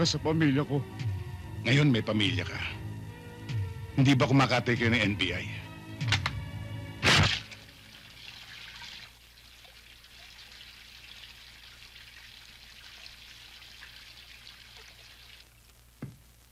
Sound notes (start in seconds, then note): 7.8 water rushing